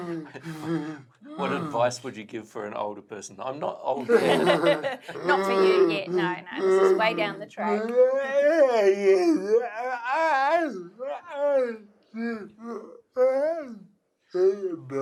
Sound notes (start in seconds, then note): 4.0 all laughs; 7.9 murmurs